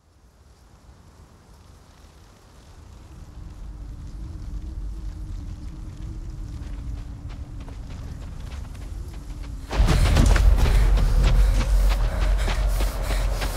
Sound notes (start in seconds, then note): 2.5 wind rustling; 6.4 footsteps; 9.6 heavy breathing